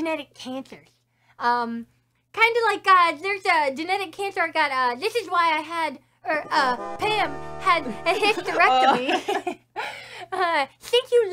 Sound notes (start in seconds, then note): 8.2 both laugh